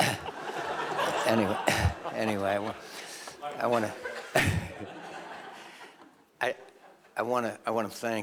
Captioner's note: laughter